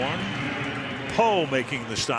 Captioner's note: pa announcement